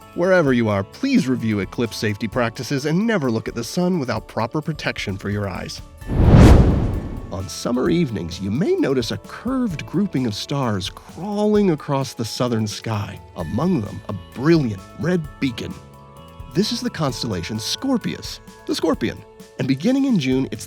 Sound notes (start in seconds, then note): 6.0 whoosh